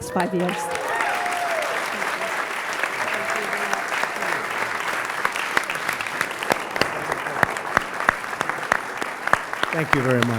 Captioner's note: applause